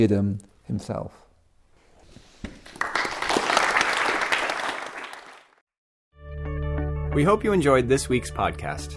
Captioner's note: applause